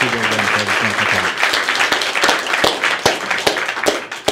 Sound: applause

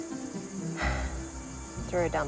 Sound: sighs

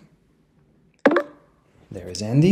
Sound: software chimes

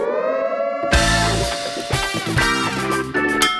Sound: siren

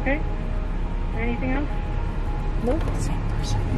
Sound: woman In Speakerphone

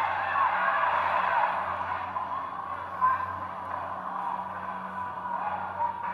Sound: muffled speaker sounds

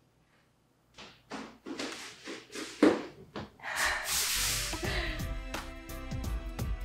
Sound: banging and sliding noises; chill music continues

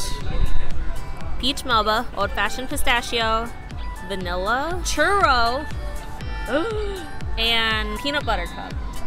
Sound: gasp

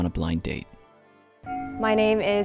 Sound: bell chimes

